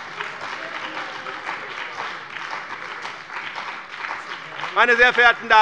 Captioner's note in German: Lebhafter Beifall bei dem BÜNDNIS 90/DIE GRÜNEN und der CDU